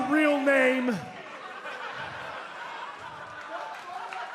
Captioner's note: laughter